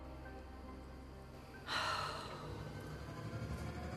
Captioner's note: sighs